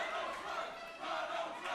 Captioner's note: fans chanting